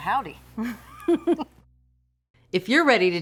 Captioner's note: both laugh